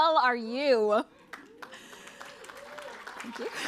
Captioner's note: applause